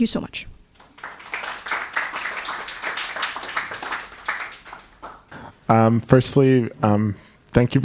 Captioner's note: applause